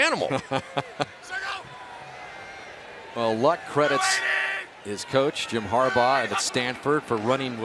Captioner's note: laughs